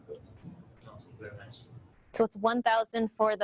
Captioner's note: audience member speaks from a distance